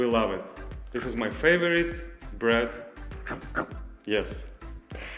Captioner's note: chomping